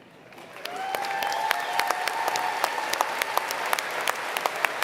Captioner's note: applause